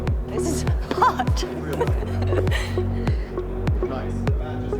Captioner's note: laughs